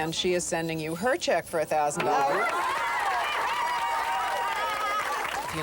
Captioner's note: cheering